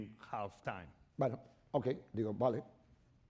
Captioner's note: speaking spanish